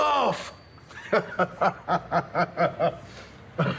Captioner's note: he laughs